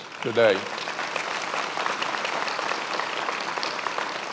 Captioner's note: many applauding